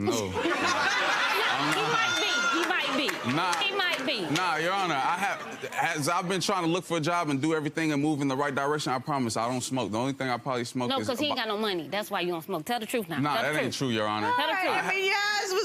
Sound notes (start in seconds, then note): 0.1 audience laughing